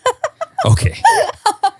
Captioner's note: laughing